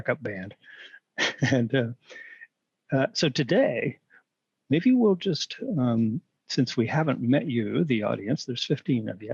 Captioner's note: laughter